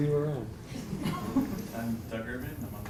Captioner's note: laugh